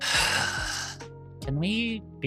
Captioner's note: sighs